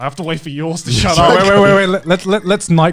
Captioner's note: chuckling